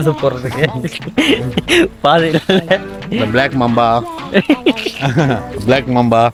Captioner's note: laughter